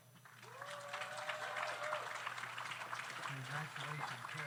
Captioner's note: audience applauds